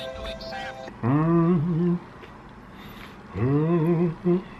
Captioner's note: humming